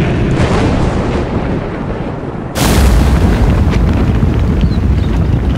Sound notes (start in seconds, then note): 2.5 crash; 3.4 explosion